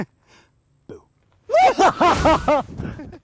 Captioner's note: screaming